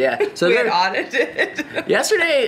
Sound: laughs

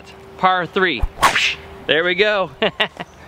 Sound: imitates slingshot snapping; laughs

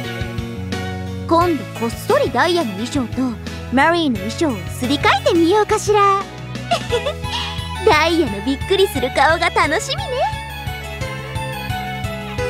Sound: giggle

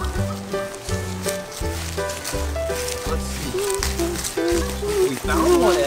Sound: happy piano music; leaves crunching under footsteps

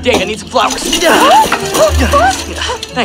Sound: shrieking

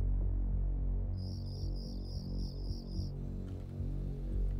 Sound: light dramatic music; crickets chirping

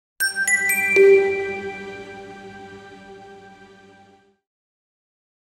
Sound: chimes

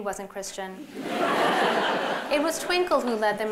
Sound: laughter

